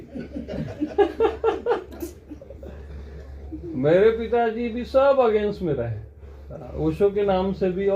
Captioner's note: chuckles